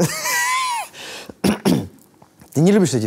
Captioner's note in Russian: откашливается